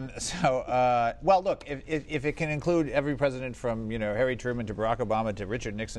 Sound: laughs

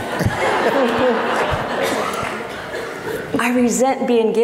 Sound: laughing

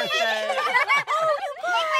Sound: laughs

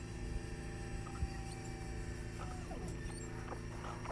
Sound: machinery

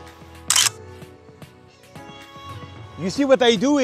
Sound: camera clicks

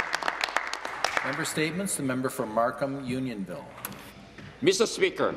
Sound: some Applause

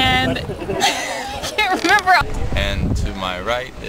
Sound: laughs

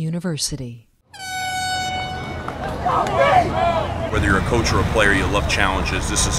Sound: horn blows

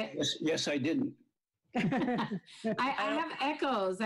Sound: laughs

